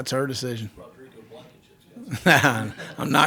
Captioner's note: man speaking off mic; laughing